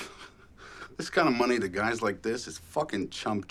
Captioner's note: laughs